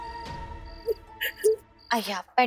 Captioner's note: crying